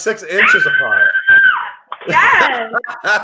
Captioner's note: screams; laughs